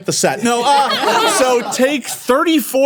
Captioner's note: everyone laughing